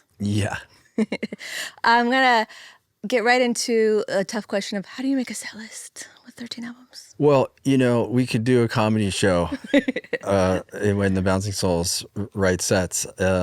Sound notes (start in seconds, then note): 1.0 chuckling